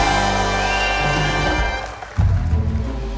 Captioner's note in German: Jubel, lässige Klänge; Pfiffe; Spannungsvolle Klänge